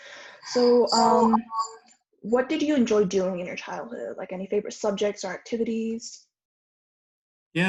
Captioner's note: echoes